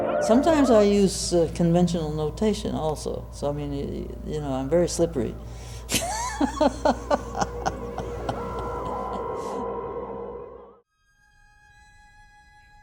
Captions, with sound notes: Sometimes I use conventional notation also, so, I mean, you know, I'm very slippery. (laughs) (eerie music) (soft music)